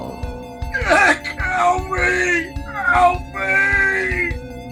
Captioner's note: bloodcurdling death scream